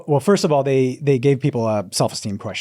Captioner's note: none